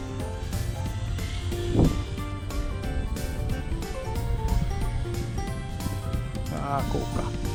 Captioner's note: laughs